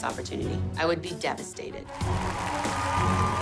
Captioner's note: cheering